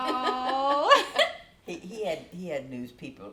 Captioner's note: chuckles; laughs